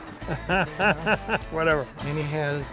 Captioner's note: laughing